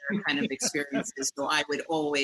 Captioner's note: laughs